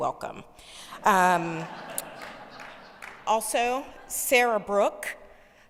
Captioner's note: audience laughing